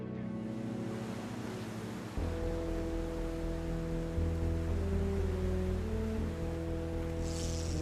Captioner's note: waves splashing; fishing pole ticking